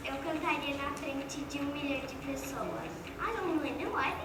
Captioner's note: speaking foreign language